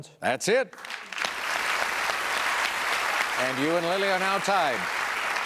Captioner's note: applause